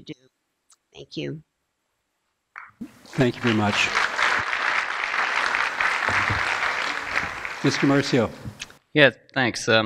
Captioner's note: applause